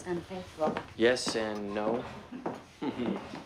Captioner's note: chuckles